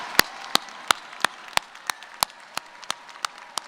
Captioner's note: applause